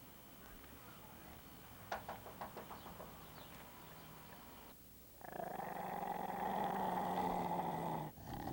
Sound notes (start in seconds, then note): 1.8 knocks; 5.2 growling